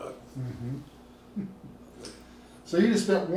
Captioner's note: laughing